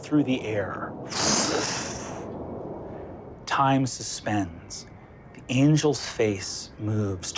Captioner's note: mimics air whooshing